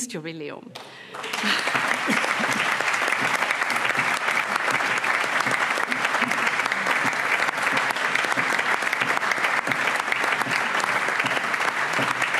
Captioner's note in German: Allgemeiner Beifall